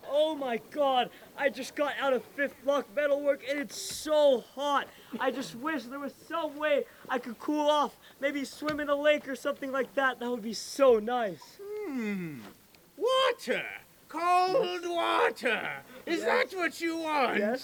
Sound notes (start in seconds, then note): none